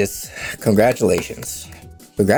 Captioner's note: clapping